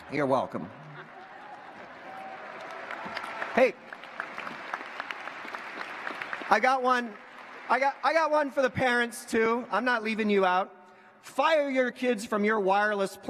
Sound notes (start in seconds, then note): 3.9 applause